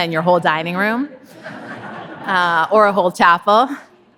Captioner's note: audience laughing